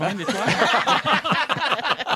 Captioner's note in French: rires